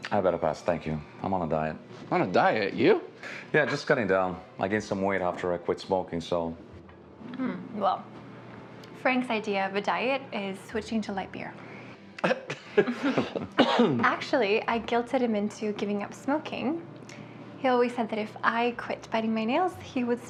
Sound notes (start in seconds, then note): 12.2 Larry laughing